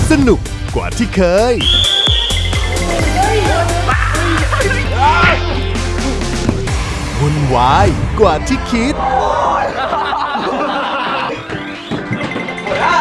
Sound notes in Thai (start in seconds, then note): 1.6 เป่านกหวีด; 2.0 เสียงเอฟเฟควิ่ง; 4.9 เสียงต่อย; 9.3 ทุกคนหัวเราะ; 10.5 เสียงเอฟเฟควุ่นวาย